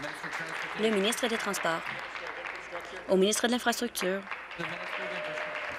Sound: applause

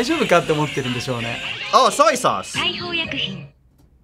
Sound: announcer speaks Japanese

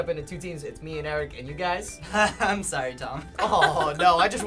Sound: chuckles

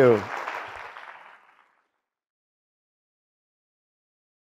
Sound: audience applauds

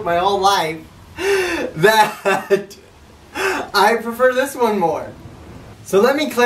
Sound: loud laugh

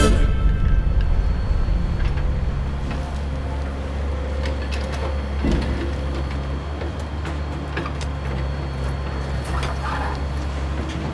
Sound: we hear coal mining machinery in the background

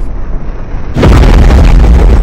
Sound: crushing Shard Earrape

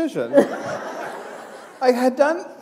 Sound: laughter

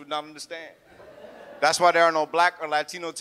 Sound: audience laughs

